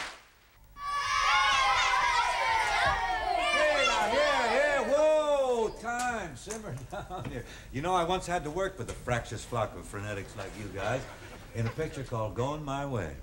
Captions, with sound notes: (children shouting) Hey now, yeah, yeah, whoa. Time, simmer down here. You know, I once had to work with a fractious flock of frenetics like you guys in a picture called G oing My Way.